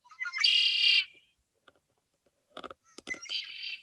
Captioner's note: bird squeaking